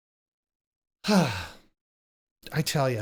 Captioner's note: sighs